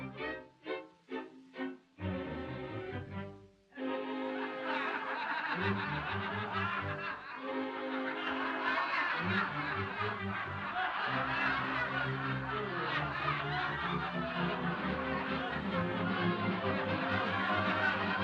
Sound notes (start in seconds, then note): 4.8 audience laughs